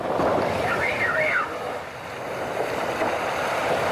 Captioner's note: blowhole screeches; water sloshing